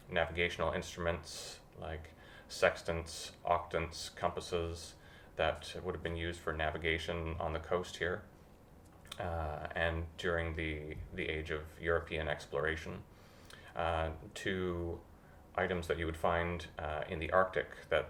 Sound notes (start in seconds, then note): none